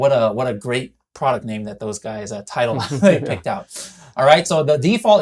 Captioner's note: chuckles